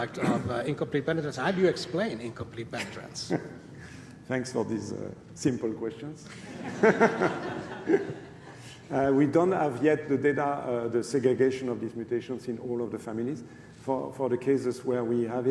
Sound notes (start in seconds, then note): 9.4 laughter